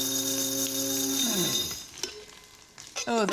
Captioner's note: whirring stops